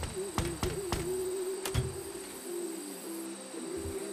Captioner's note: hand knocking